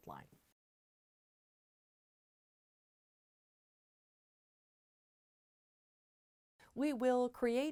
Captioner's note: no Sound Present